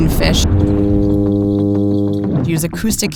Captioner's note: fish humming